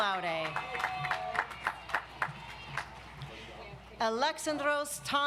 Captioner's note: audience applauds